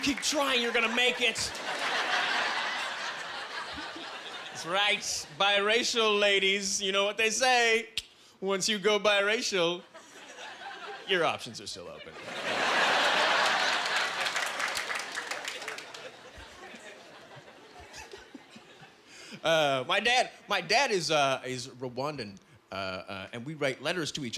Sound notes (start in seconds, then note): 12.1 laughing